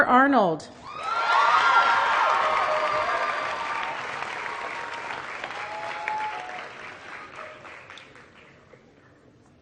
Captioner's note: applause